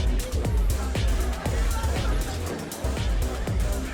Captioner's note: people chattering; upbeat music